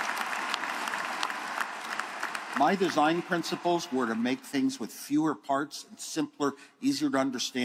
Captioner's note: applause